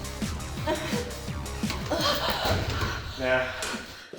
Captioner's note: gasping for air